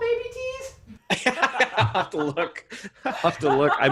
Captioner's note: laughing